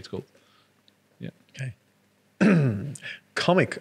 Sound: clears throat

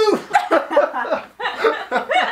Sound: hahahahah

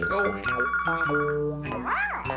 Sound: phone ringing

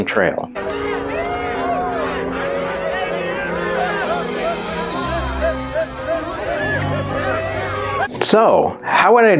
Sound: party sounds

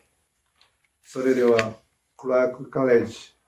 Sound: speaking japanese

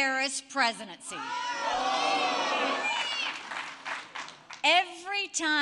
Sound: crowd jeers

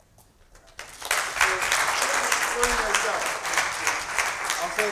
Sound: applause

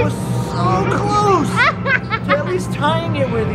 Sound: laughing

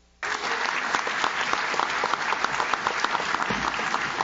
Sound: audience claps

